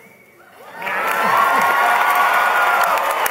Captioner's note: applause